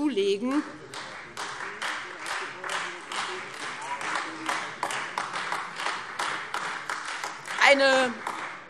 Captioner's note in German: Beifall